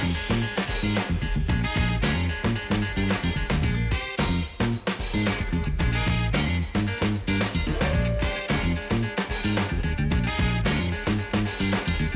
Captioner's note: funky Sound out